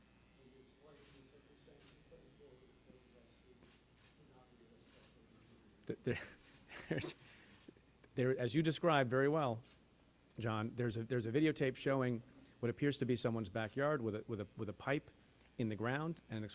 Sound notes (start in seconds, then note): 6.0 chuckles